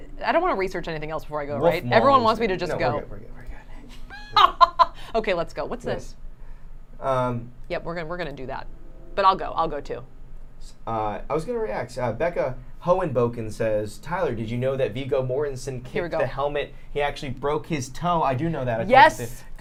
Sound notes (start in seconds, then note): 4.0 silly laughter